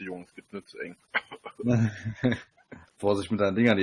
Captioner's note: laughter